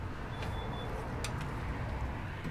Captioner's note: door opens